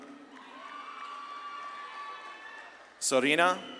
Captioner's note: audience claps and cheers